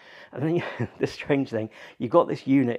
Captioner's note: laughs